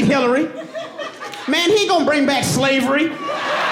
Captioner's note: audience laughing and cheering